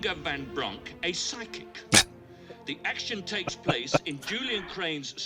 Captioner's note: laughing